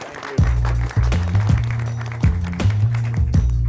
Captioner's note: applause